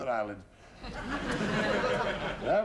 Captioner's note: laughter